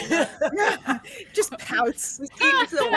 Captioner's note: laughs